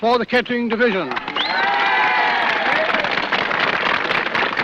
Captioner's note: cheering and applause